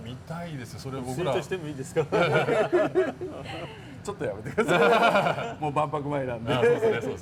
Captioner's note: laughs